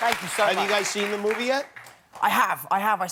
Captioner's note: cheering